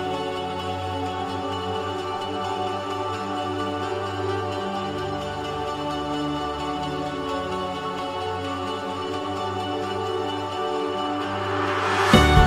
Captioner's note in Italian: Applauso